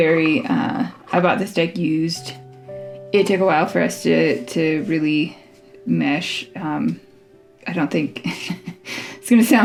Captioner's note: laugh